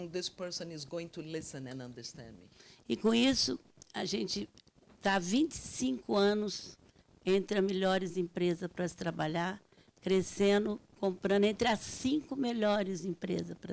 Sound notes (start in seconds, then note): 3.0 speaking Portuguese